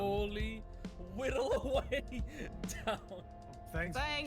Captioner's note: laughs